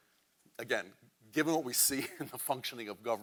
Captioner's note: chuckles